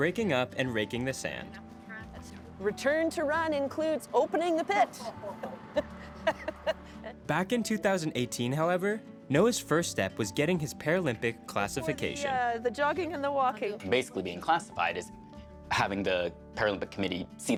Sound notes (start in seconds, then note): 5.0 laughing